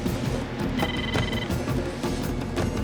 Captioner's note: phone ringing